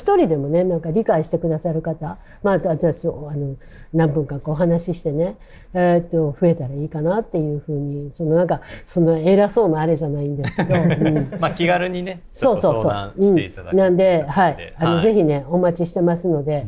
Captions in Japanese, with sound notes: 1人でもね、なんか理解してくださる 方、ま、私たち、あの、何分かお話ししてね、えっと、増えたらいいかなっていう風に、そのなんかその偉そうなあれじゃないんですけど。うん。 [笑い] ま、気軽にね、ちょっと相談していただきなんで。はい。あの、是非ね、お待ちしてますので。はい。よかったらチャンネル登録といいね。